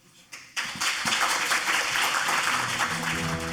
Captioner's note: audience applauds; thoughtful chiming music